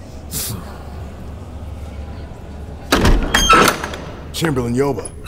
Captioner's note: door opening